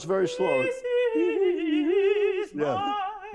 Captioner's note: both vocalizing